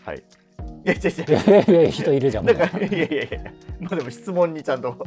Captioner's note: laughing